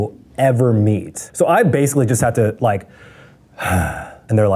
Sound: sighs

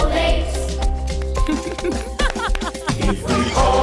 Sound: laughing

